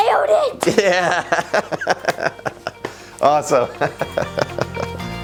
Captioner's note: laughs